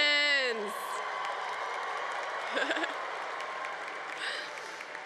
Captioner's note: congregation cheering